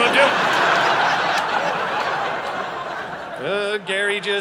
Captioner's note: audience laughing